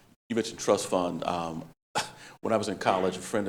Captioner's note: scoffs